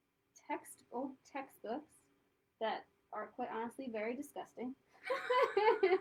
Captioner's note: laughter